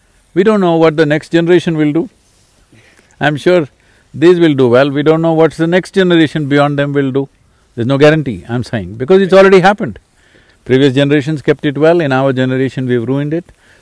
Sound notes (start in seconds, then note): none